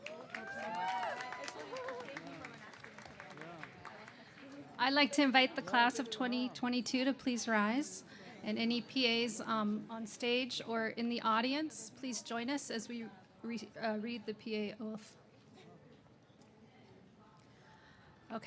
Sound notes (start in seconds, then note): 0.0 cheers and applause